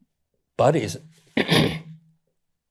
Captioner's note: clears throat